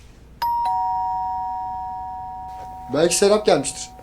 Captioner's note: doorbell rings again